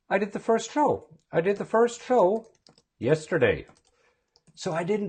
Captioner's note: talking out loud while typing